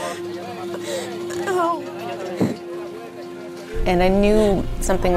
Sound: crying in pain

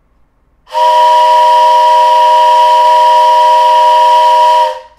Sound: train horn noise

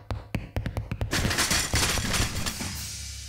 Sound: crashing noise

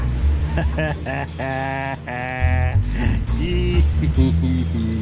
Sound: ok, just silly giggling

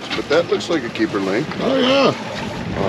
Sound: fish thrashing

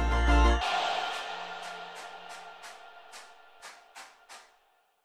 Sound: rhythmic clapping

